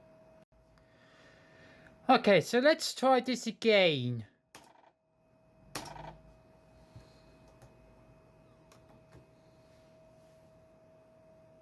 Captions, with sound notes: Okay, so let's try this again. [LAPTOP FLOPPY DRIVE SOUND]